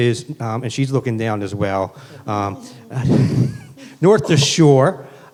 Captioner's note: laughs